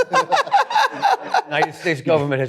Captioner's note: laughter